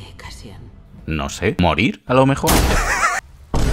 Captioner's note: laughs